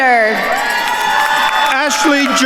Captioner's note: attendees cheering and applauding